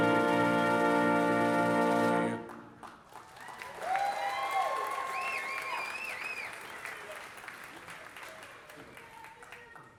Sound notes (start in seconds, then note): 3.6 audience applauding